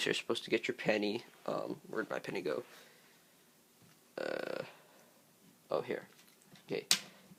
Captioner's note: hurr durr